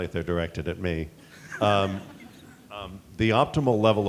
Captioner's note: audience chuckling